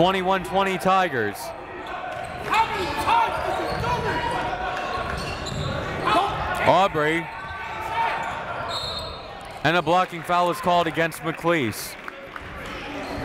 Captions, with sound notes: 21-20 Tigers. Aubrey. (whistle) And a blocking foul is called against McClease.